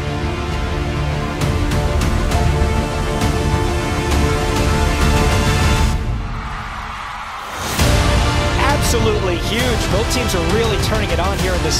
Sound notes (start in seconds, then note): 5.5 crowd cheers